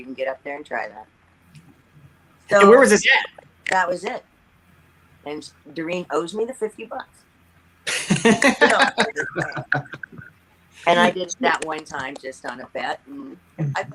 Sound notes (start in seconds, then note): 7.8 laughs